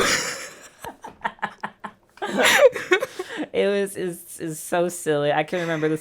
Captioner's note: laughter